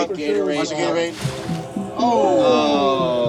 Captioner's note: Gatorade splashing